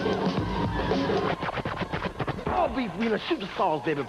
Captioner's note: scratching sound